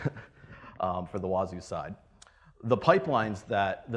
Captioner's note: laughs